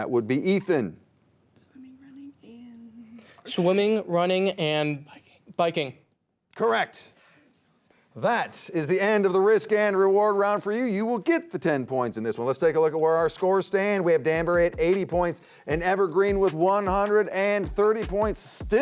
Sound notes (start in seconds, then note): 5.0 teammate whispers